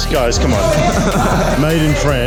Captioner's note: laughter